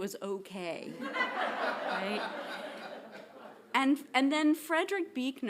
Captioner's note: audience laughing